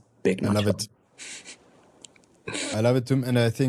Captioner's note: chuckles